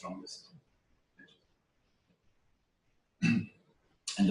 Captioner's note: pause